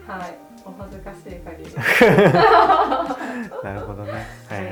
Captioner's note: laughter